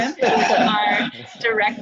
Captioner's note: laughter